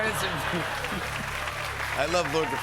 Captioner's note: applause